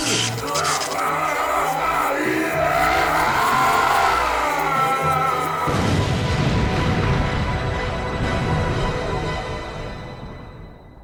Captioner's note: baelfor screams in agony and explodes